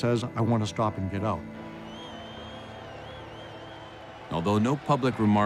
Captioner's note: people cheering and whistling